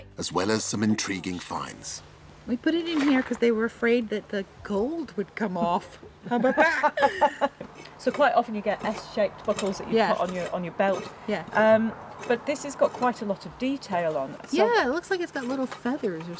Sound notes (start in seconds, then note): 5.3 laughing